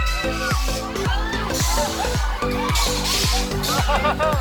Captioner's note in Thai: เสียงสนุกสนาน